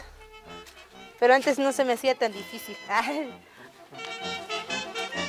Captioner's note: laughs